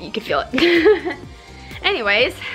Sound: laughs

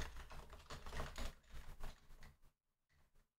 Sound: keyboard clattering

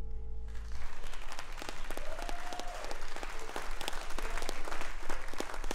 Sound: audience applauding and cheering

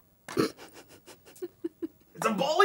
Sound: laughing

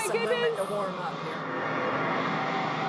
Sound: wind howling

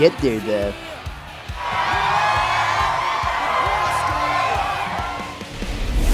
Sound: screams for chinese pussy

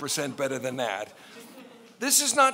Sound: laughing

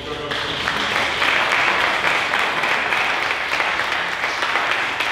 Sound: audience applauding

